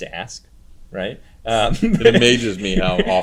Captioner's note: laughs